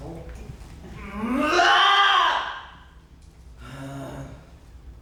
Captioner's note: Eleven screams